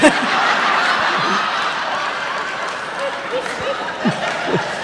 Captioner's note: uproarious laughter